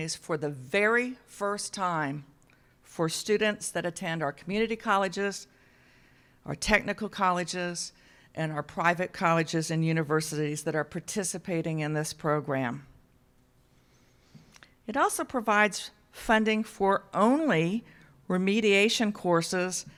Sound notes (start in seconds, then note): none